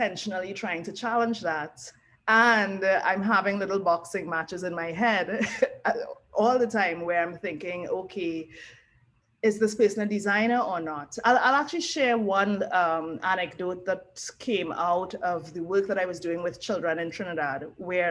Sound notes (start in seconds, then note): 5.7 laugh